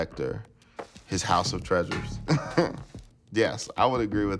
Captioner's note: laughter